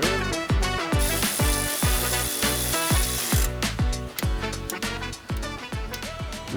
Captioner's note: upbeat music; tool whirring